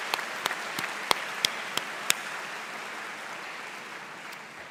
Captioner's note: cheers and Applause